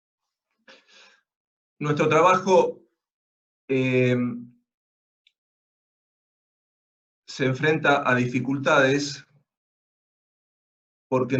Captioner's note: Spanish